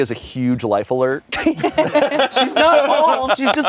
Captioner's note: everyone laughs